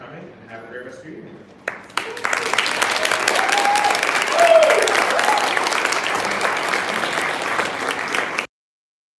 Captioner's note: applause, whoops